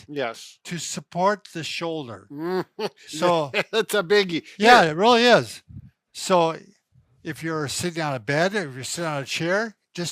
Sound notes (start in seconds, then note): 2.3 laughs